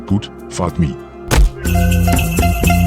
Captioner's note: punch